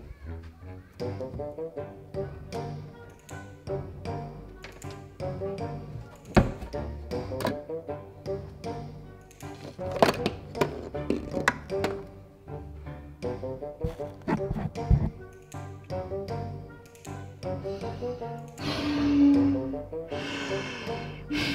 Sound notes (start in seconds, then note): 0.1 mischievous music; 2.9 door opening and closing; 17.6 breathing through snorkel